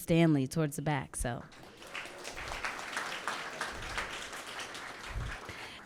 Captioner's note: audience clapping